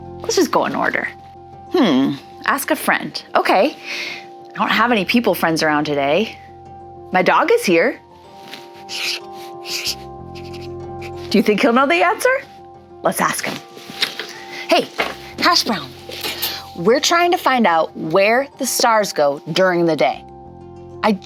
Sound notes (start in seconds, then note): 8.8 pen scribbling